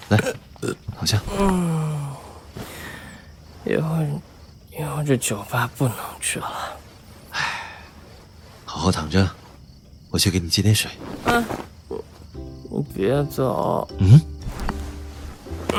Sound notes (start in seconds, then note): 0.0 burps; 7.2 sighs